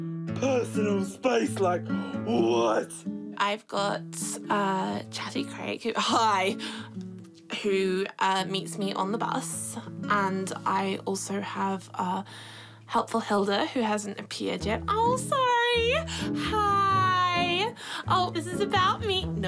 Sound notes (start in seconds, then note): 5.8 deep voice